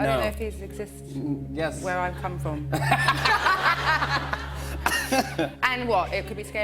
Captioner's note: laughter